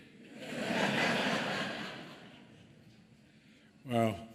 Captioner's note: laughter